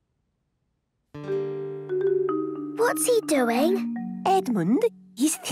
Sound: whispering

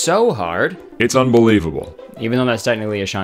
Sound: voice effect

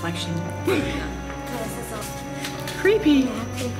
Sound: laughs

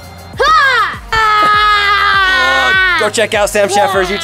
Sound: yelling

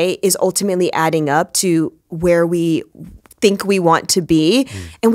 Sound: none

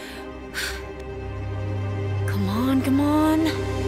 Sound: inhales, blows

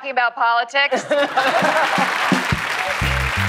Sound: laughter; applause

